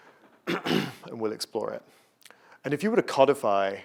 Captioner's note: cough